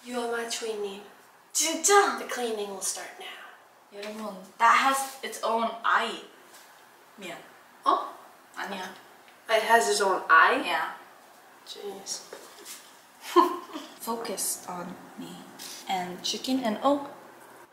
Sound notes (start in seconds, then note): 13.2 laughing